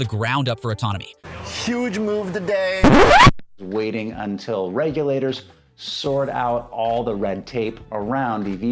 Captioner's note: recordscratch